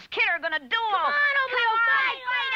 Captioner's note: kids goading Oblio on